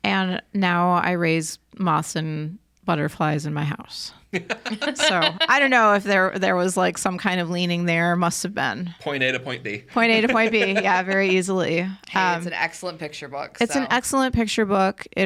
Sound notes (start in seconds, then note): 4.3 podcasters laughing; 9.9 laughing